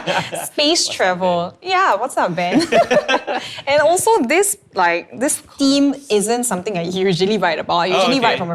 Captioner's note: both laugh; both laugh